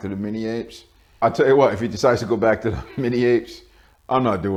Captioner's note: laughing